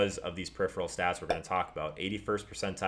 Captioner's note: pop